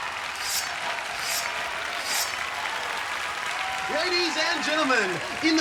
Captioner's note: swords slicing